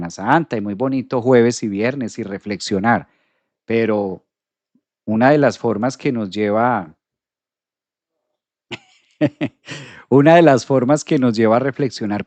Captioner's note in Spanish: risas